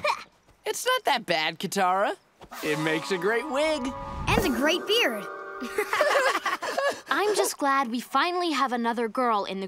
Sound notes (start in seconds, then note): 5.6 laughing